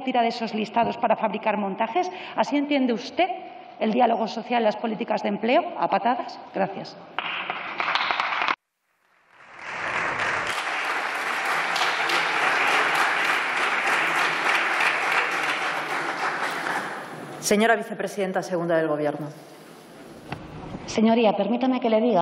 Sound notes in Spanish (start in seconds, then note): 9.3 Aplausos